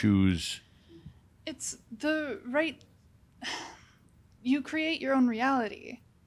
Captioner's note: she sighs